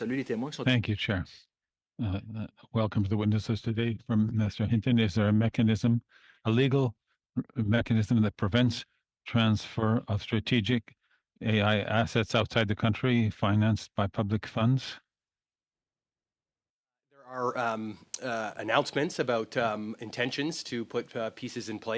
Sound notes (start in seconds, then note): 6.1 speaking in French